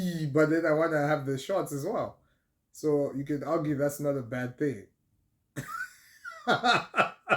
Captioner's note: laughter